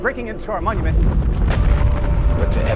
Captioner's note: orb rumbling